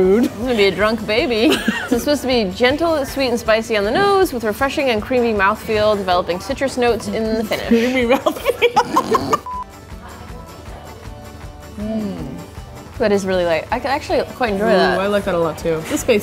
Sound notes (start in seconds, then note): 7.6 laughing; 11.7 both humming